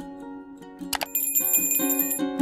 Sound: mouse click; bell ringing

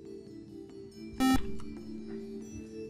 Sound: buzzer

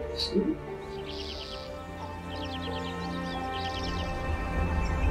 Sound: birds chirping

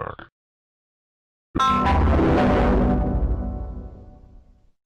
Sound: Devil Windows Server 2003 Shutdown Sound

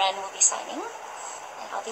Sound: background ocean sounds

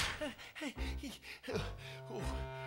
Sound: panting

